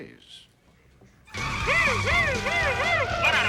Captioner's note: imitating siren